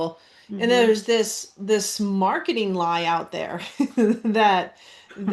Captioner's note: laughs